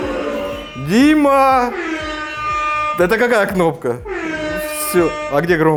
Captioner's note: hungry whale sound